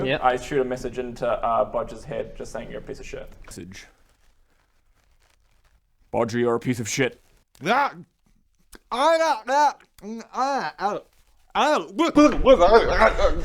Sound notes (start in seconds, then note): 10.0 ng-erggh-ergl; 11.6 arghlgh-brr